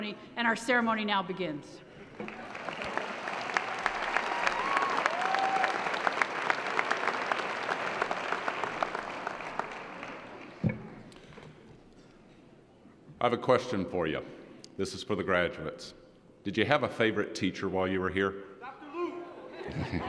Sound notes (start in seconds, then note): 2.1 applause